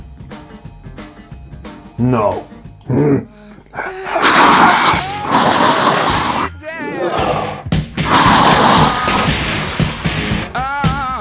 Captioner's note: enraged roaring and glass breaking